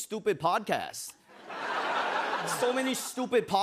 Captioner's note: laughter